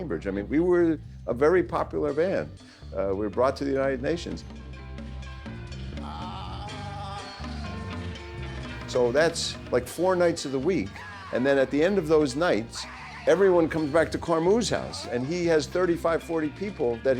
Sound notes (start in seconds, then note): 5.6 progressive rock music; 5.6 vocalizing